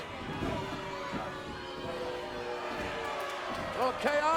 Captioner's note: audience booing